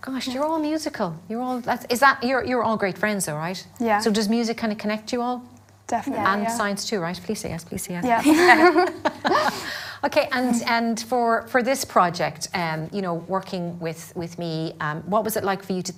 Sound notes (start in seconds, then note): 8.2 all laugh